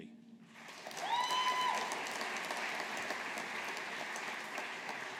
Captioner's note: audience applauding